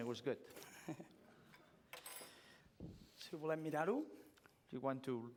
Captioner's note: laughs; non-english speech